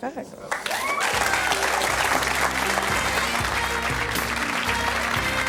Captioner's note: audience applauds; saxophone music